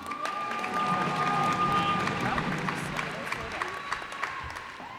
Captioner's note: cheers and applause